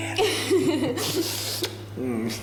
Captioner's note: Mariana laughs; kiss